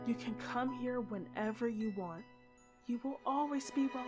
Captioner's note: none